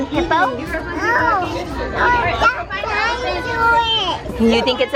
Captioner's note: talking